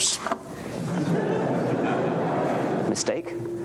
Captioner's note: laughter